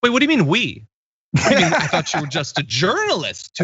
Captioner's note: laugh